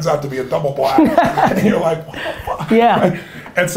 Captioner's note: Gary laughs